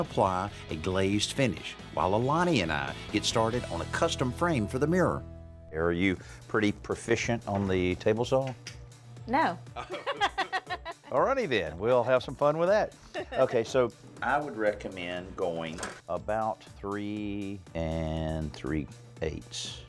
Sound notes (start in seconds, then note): 9.8 both laugh